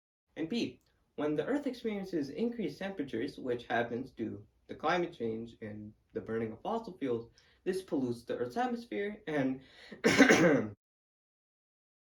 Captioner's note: cough cough